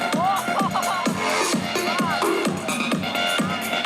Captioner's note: laughs